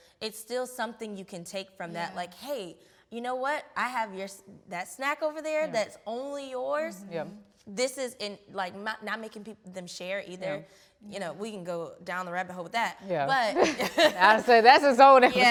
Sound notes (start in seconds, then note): 13.5 laughs